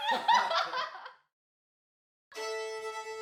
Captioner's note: group laughs; instrumental upbeat music